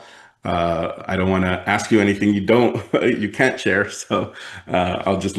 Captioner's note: laughs